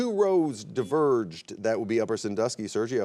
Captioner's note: buzzer beeps